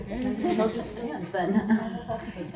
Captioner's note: murmurs